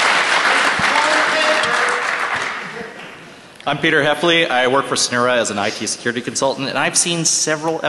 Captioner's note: cheers and applause